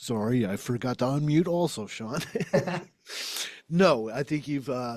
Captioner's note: laughs